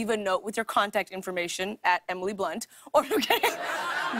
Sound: laughter

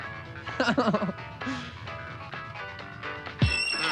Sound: laughing

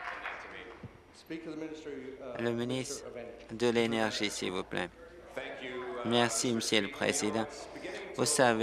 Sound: applause

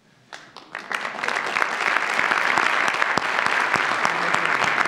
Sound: audience applauds

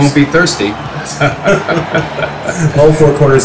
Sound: awkward Laughter

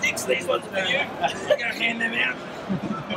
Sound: laughing

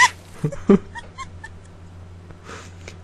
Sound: laughing

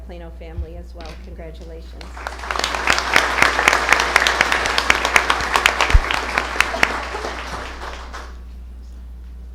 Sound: applause

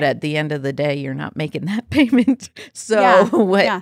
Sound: laughs

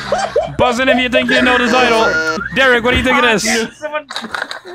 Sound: everyone breaks into laughter; buzzes

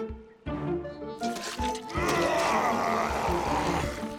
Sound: muttering

